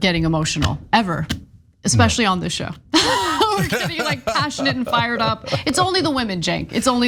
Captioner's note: laugh